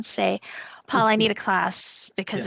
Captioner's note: chuckling